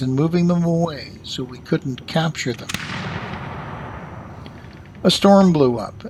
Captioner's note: a cannon fires